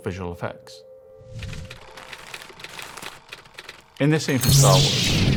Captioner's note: film reel clicking